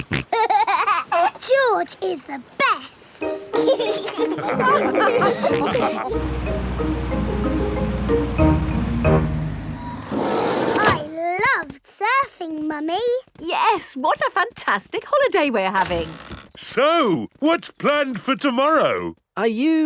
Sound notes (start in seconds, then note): 0.0 snorts and laughs; 3.3 all laugh